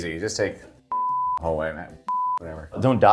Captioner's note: beep